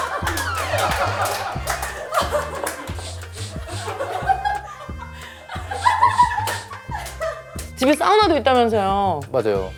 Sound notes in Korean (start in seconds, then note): 2.9 킁 킁 킁